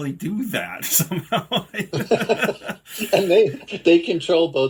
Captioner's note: laughing